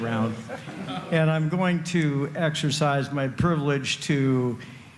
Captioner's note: laughter